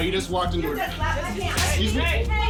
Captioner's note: indistinct chatter